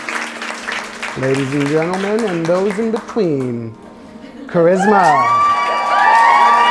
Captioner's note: clapping